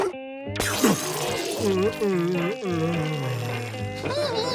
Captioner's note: groaning; laughing